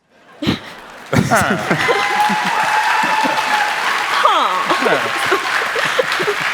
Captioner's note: applause